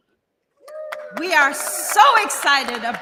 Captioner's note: applause